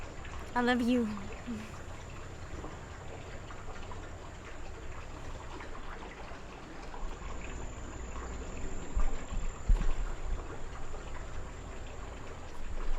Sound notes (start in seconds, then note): 2.0 chuckles; 3.1 water babbling